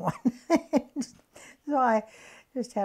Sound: laughs

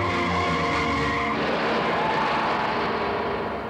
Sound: car crashes

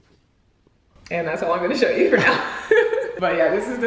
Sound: laughs

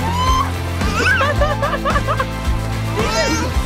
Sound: laughing

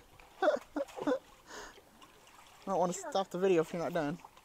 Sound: laughs

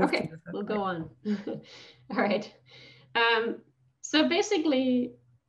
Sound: laughs

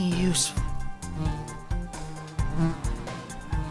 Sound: fly buzzing

